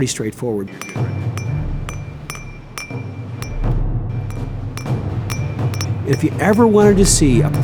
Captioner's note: sound of pen hitting glass